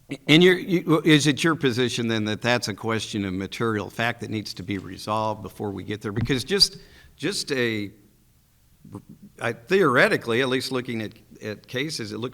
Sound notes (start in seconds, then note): none